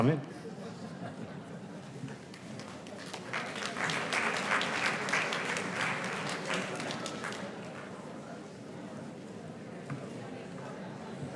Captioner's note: laughter; applause